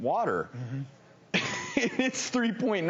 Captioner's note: laughing